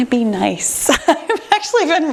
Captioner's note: laughs